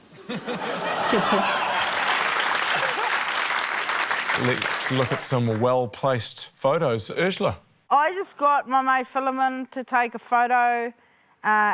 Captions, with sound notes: (LAUGHTER) See ya, Paul. (APPLAUSE) - Let's look at some well-placed photos. Urzila? - I just got my mate Filimon to take a photo, uh,